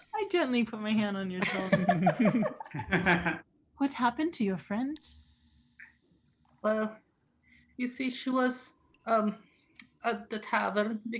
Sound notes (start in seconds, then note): 1.4 group laughing